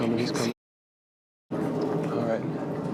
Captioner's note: muted